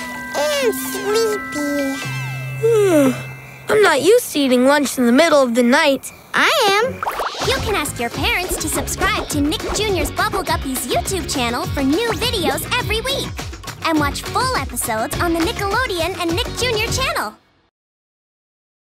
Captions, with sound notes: And sleepy. [yawning] I'm not used to eating lunch in the middle of the night. I am. You can ask your parents to subscribe to Nick Jr's Bubble Guppies YouTube channel for new videos every week. And watch full episodes on the Nickelodeon and Nick Jr channel.